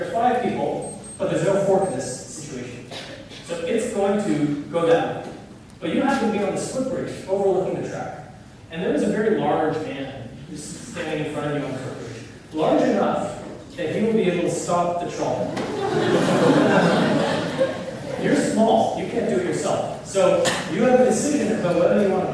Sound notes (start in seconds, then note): 15.5 laughter